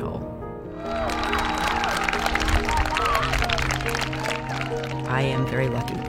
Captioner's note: people clapping